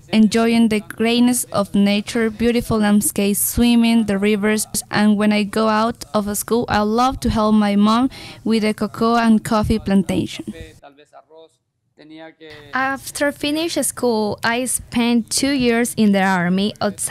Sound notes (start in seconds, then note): 11.1 speaks in Spanish